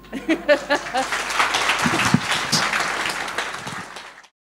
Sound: laughs; applause

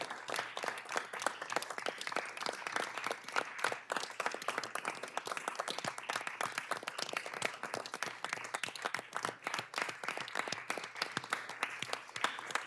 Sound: applause

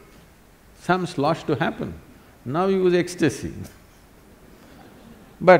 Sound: laughs

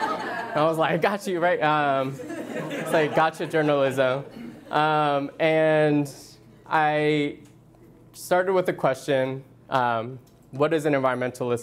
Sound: laughter

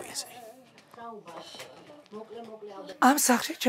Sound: speaking Georgian

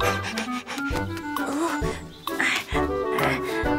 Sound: gasps

